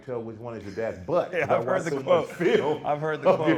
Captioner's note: laughing